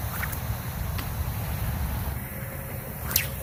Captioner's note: sling whips; splash; sling whips